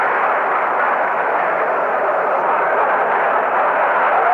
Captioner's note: applause